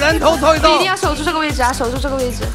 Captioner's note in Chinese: 嘻嘻